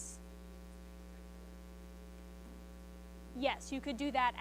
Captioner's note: student speaks faintly